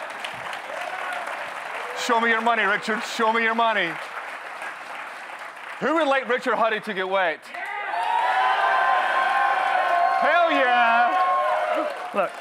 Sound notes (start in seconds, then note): 0.0 audience cheers; 7.5 audience cheers